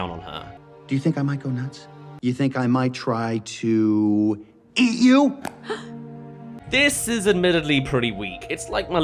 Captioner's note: gasp